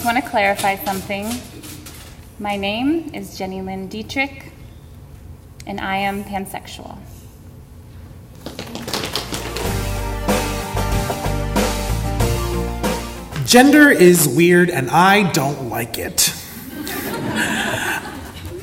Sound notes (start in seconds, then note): 8.4 audience applause; 16.2 audience laughter